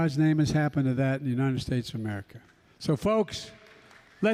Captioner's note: applause